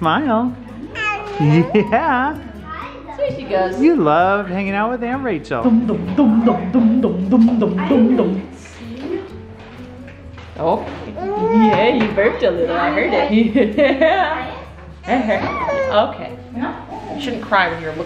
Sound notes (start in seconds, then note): 0.0 baby babbling; 6.2 making baby noises; 15.0 laughs; 15.4 babbling